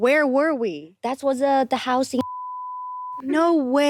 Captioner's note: beep